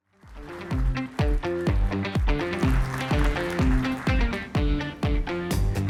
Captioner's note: audience applauding; bright upbeat music